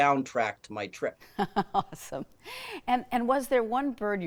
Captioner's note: chuckling